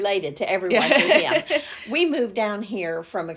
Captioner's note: laughs